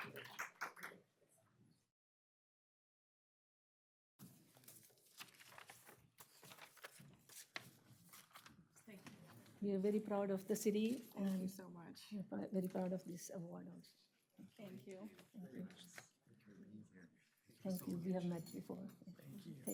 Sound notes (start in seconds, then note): 1.6 applause